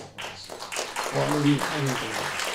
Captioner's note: applause